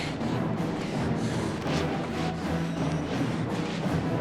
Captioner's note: thud sound